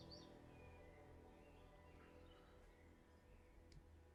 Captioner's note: birds chirping